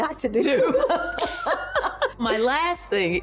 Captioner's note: laughing